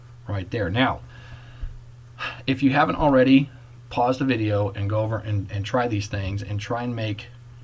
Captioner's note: sighs